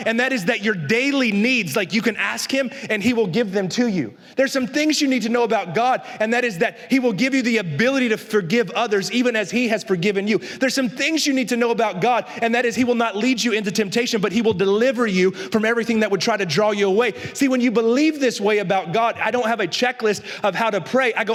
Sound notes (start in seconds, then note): none